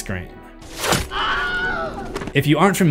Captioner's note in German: Schrei